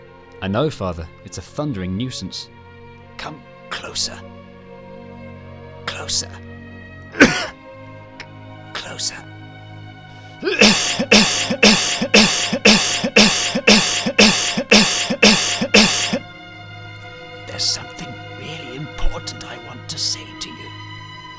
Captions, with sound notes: I know father. It's a thundering nuisance. Come closer... Closer... *Cough* Closer.... *Cough* *Cough* *Cough* *Cough* *Cough* *Cough* *Cough* *Cough* *Cough* *Cough* *Cough* There's something really important I want to say to you...